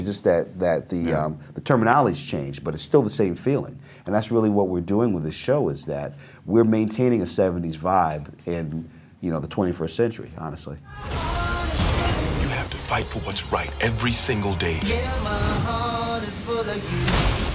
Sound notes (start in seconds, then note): 11.6 singing; 13.1 exploding